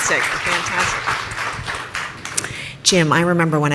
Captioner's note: audience applauding